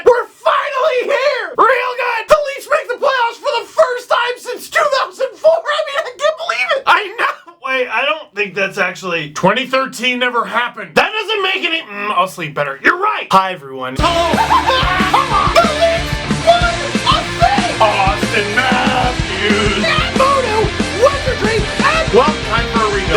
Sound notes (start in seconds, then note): 14.0 screaming